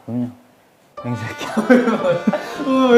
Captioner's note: is laughing